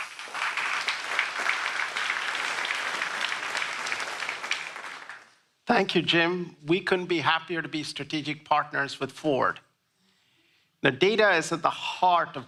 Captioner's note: applause